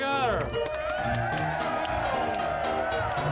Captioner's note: audience cheering; audience applauding; lively piano music